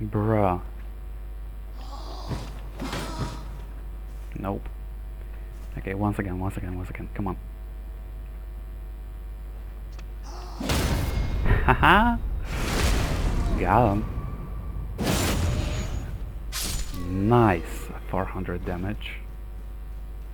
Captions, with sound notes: Bruh. Nope. Okay, once again, once again, once again, come on. *laughs* Got him! Nice! 400 damage